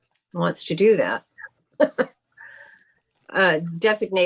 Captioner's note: laughs